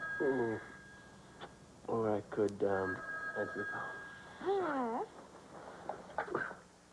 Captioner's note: telephone rings